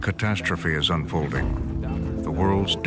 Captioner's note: soundbite of tv show, "frontline"